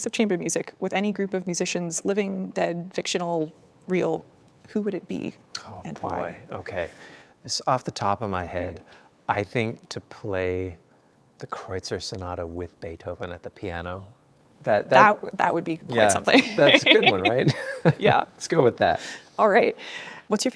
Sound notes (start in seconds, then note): 16.1 laughs